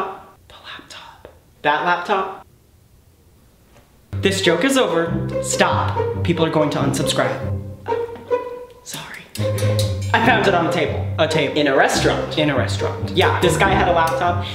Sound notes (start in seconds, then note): 0.3 whispering; 7.7 whispering